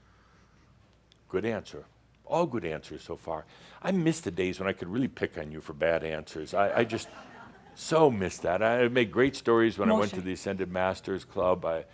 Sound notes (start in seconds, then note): 6.8 some chuckles